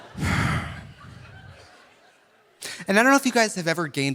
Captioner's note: audience laughing; Trixie sighs